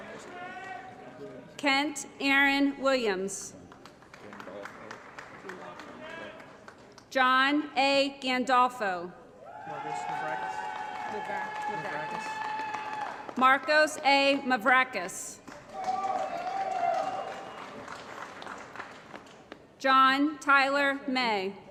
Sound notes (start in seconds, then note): 3.6 applause; 9.6 applause & Cheering; 15.4 applause & Cheering